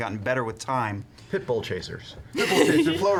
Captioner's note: laughs